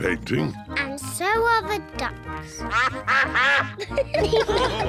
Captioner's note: quacking; all laugh